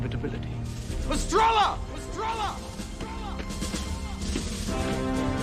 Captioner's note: echoes